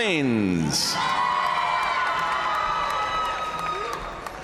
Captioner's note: audience cheering and applauding